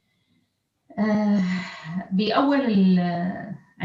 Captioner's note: speaks arabic